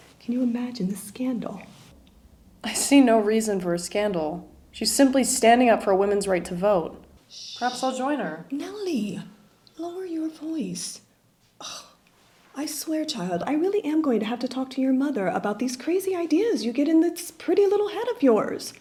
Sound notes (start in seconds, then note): 11.6 sighs